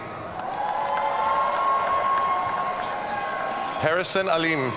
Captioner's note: audience cheering